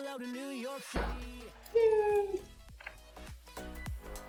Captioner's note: thud